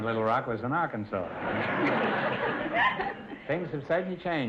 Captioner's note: audience laughter